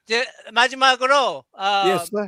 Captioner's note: non-english speech